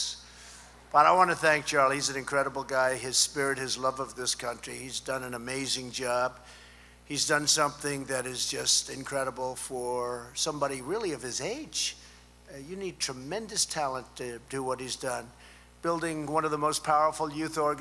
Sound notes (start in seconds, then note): none